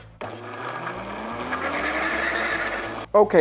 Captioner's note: blender running